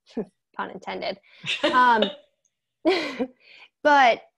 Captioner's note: laughing